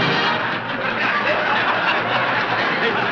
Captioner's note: audience laughing